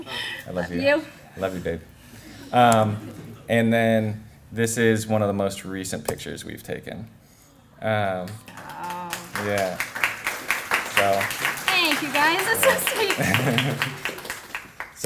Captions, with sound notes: I'M JUST KIDDING. [LAUGHTER] JUST KIDDING. >> I LOVE YOU, BABE. AND THEN THIS IS ONE OF THE MOST RECENT PICTURES WE'VE TAKEN. [APPLAUSE] >> THANK YOU, GUYS. THAT'S SO SWEET.